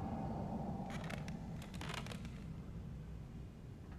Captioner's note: wood creaking